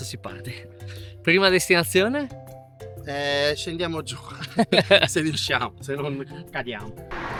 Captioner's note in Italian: risate